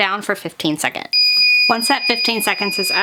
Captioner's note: mug press beeping